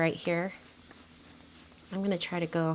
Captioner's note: brush scrubbing